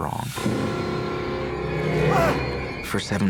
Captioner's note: pained shout